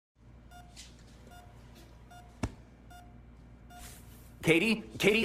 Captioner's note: heart monitor beeping